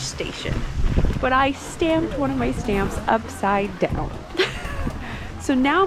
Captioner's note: embarrassed laugh